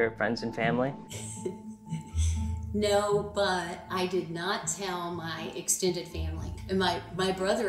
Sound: laughs

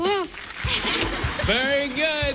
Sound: laughter

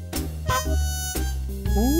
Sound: honk!

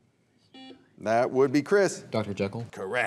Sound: buzzer beeps

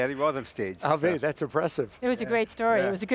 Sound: laughs

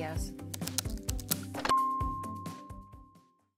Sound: bright music; computer keys clicking

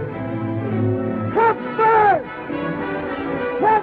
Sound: miner yelling

